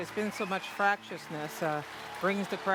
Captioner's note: cheers and applause